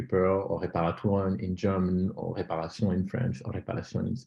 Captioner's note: german